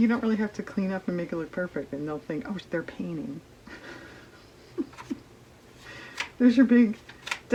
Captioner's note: laughs